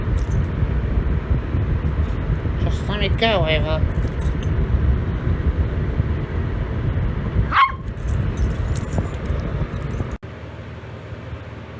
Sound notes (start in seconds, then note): 7.4 Ella barks